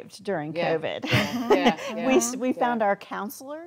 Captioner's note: laughing